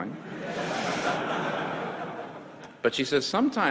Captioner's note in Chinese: 會眾笑